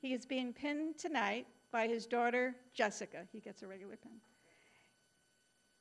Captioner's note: none